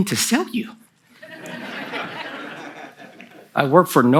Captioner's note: laughter from the audience